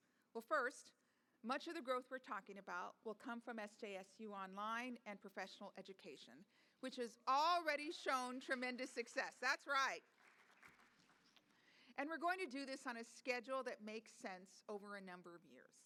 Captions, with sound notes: Well, first, much of the growth we're talking about will come from SJSU online and professional education, which has already shown tremendous success. That's right [applause], and we're going to do this on a schedule that makes sense over a number of years.